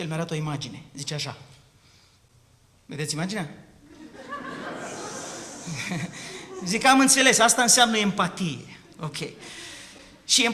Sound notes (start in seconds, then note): 3.8 laughter